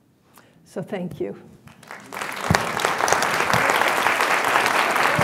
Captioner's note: applause